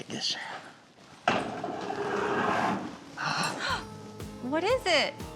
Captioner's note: opening stall door